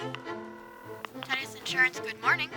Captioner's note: telephone rings